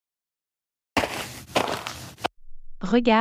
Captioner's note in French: FX - Footsteps - On Multiple Dirt - Walk